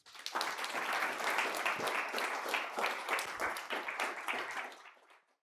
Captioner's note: applause